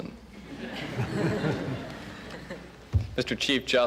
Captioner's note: laughter